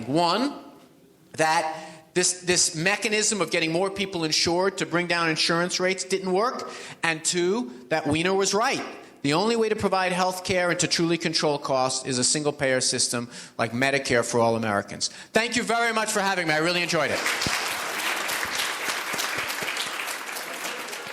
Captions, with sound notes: One, that this mechanism of getting more people insured to bring down insurance rates didn't work. And two that Weiner was right, the only way to provide healthcare and to truly control costs is a single-payer system like Medicare for all Americans. Thank you very much for having me, I really enjoyed it. (audience applauds)